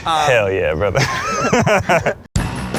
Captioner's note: laughing; upbeat rock music